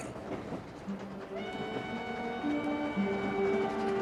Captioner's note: whistle toots